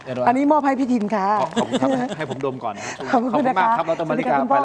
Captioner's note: laughs